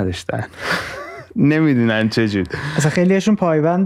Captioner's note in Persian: خنده